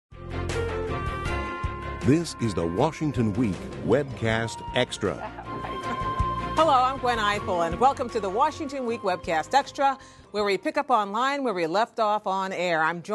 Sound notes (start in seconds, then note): 2.3 voiceover